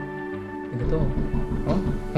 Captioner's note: knock on the door